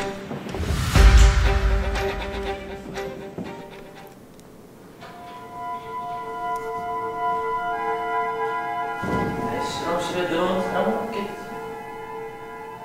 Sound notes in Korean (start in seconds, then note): 0.5 샤아악, 효과음